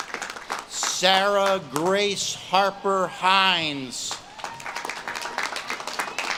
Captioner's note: audience claps and cheers